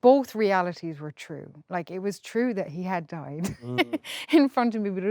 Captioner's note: laughs